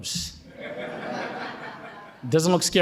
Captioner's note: audience laughing